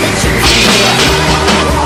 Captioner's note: crash!